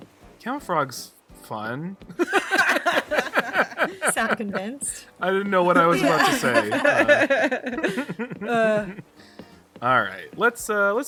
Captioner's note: all laughter